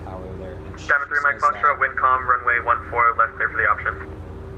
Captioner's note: radio chatter